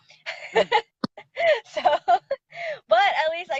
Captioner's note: laughing